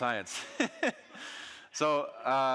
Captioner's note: audience laughing